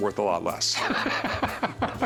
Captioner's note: laughs